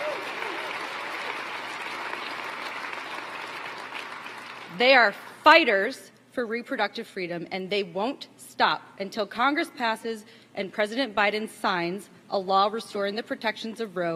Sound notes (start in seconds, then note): 4.2 applause